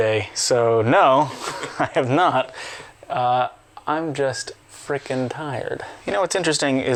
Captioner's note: laughs; laughing